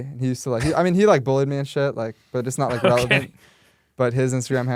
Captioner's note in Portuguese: risos